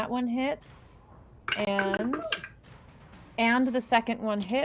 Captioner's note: dice rolls